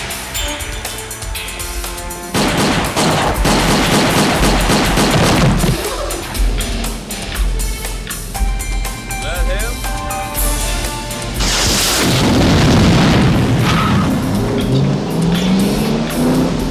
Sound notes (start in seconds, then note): 2.3 guns firing; 5.0 engine starts; 11.2 rocket explodes; 14.9 engine revs